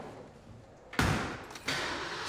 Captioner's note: closes car door; engine starts